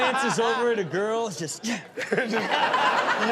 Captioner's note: audience laughs